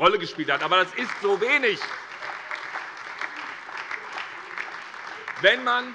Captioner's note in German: Beifall SPD